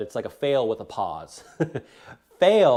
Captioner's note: chuckles